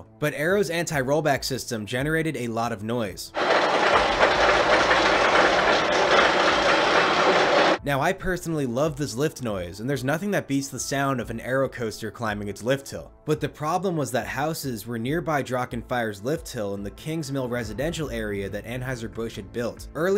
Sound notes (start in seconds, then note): 3.3 clacking even more loudly